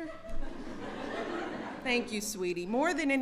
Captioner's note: laughter